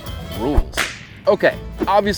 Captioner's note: whip cracking